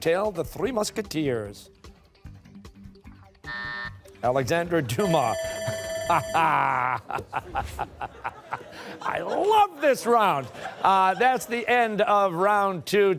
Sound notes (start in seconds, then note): 3.2 buzzer; 6.0 laughing